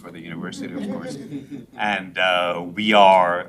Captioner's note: members laughs